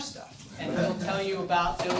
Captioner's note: audience chuckles